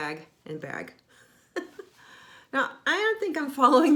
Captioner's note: laughing